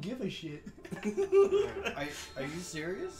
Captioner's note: laughs knowingly